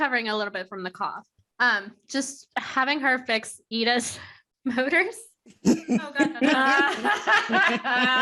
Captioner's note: laughter